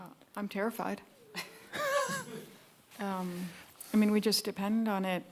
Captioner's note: laughs